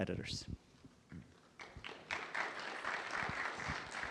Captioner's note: applause